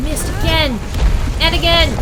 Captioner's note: ground smash